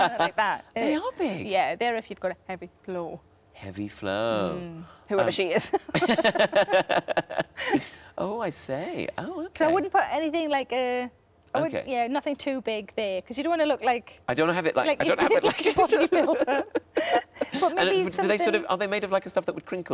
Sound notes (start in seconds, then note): 5.7 both laughing